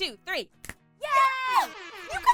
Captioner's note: girls snap fingers